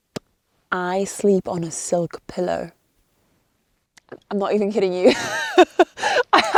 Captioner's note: laughs